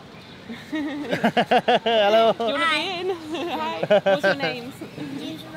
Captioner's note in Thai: เสียงหัวเราะ